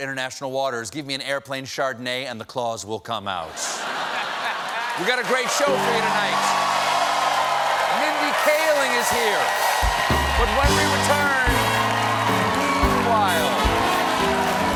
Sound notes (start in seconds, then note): 3.5 laughter; 12.3 cheers and applause